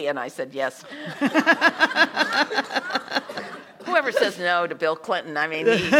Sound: laugh

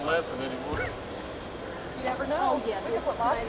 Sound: laughing

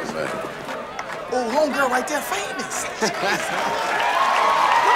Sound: cheers and applause

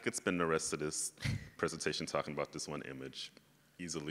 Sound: chuckles

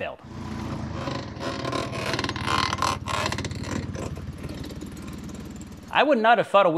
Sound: repeating squeaking noise

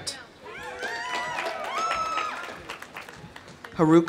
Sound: audience cheering; audience applauding

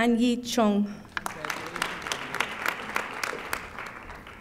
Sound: audience applauding

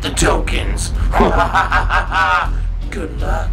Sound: evil laughter

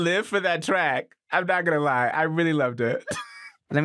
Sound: laughs

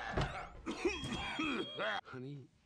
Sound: coughs

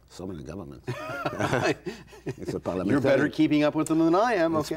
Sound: laughter

